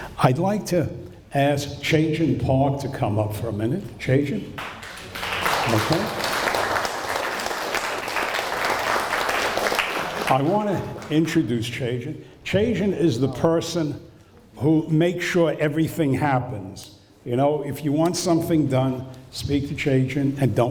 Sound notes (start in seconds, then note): 6.7 applause